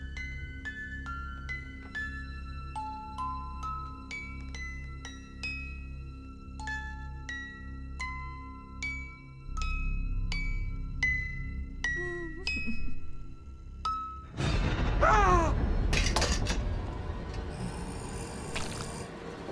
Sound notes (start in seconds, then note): 12.0 crying; 15.0 yells; 16.1 suspenseful music; 17.3 doll growling